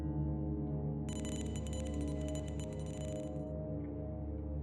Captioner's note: beeping